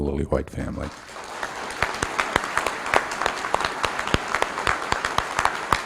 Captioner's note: applause